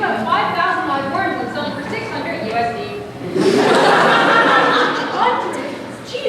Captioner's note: audience laughter